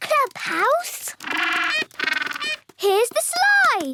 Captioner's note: honking